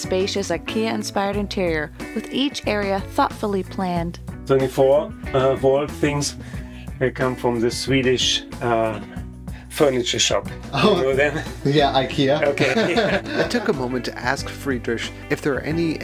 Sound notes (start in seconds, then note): 12.2 laugh